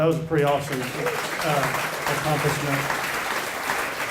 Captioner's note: applause